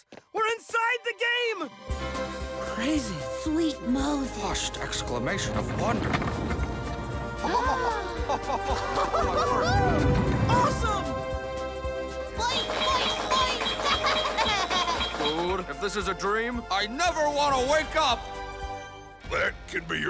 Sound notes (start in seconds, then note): 7.7 gasps; 8.2 all chuckling; 14.4 laughing